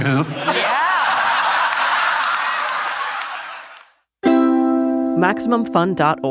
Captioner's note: audience laughing